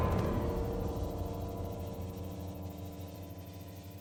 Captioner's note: steam hissing